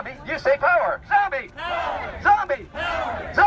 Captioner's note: crowd